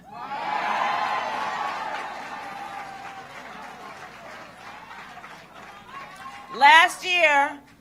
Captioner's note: applause